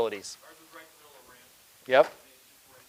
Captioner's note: person speaking quietly